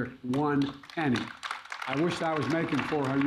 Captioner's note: applause